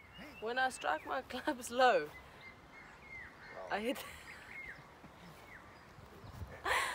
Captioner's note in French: rires